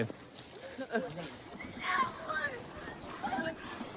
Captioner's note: yelling